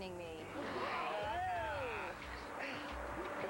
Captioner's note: crowd gasps